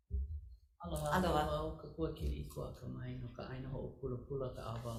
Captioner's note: greeting in Hawaiian